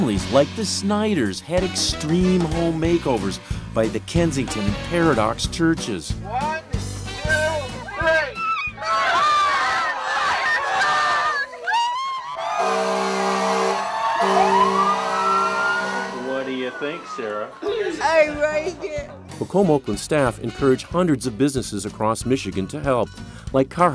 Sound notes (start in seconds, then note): 8.7 shouting; 12.5 horn blows